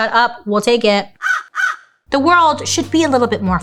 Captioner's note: cawing